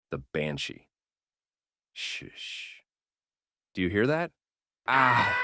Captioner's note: banshee scream